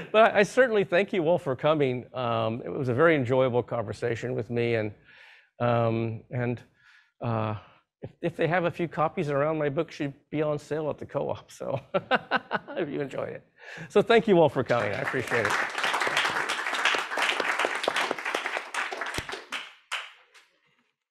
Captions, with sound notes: But I certainly thank you all for coming. It was a very enjoyable conversation with me. And if they have a few copies of my book, it will be on sale at the co-op. (laughs) If you enjoy it. So thank you all for coming, I appreciate it. (audience applause)